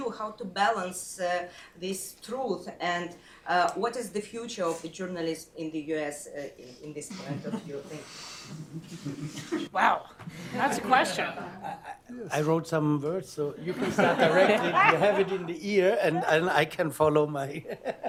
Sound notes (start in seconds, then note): 11.3 laughter; 17.6 laughs